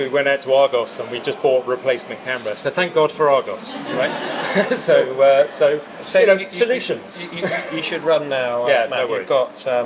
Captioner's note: laughs